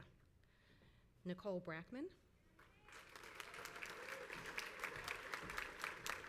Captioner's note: crowd applauds